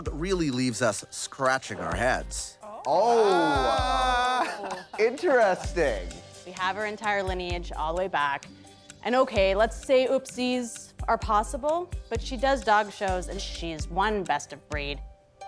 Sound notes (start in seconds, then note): 2.7 all exclaiming